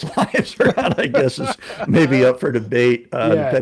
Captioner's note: laughing